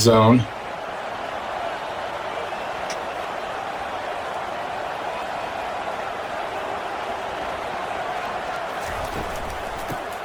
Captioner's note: crowd noise